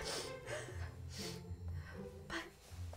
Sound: sobbing

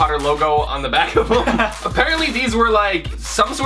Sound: laughter

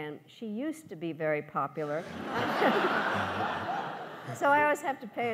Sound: laughs

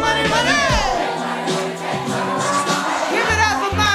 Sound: crowd

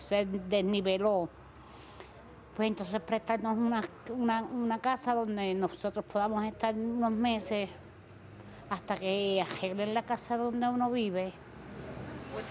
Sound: speaking foreign language

